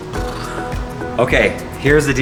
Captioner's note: blows raspberry